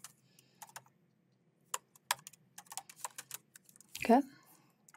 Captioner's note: keyboard clacking